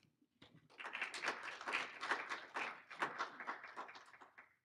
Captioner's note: applauding